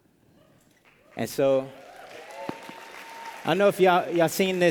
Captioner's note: applause